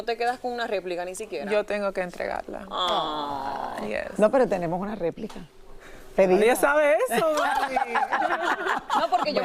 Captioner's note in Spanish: risas